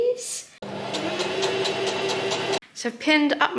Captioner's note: machine chugs along